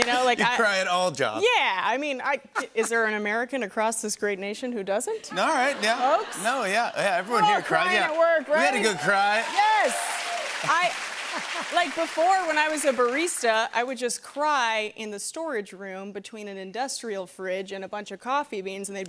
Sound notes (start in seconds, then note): 5.3 laughter; 7.4 cheering and applause